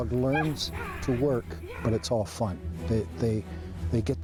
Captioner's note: voiceover